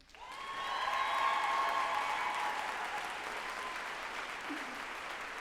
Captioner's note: group applauding and cheering